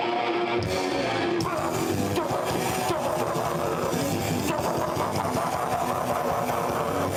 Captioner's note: chaotic metal music; singer screaming